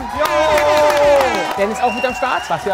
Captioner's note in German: Jubel